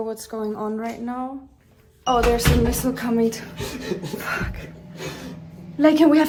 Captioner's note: nervous Laughter